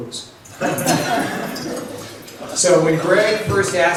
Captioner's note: laughs